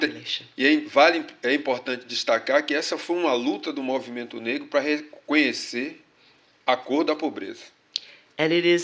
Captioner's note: speaking portuguese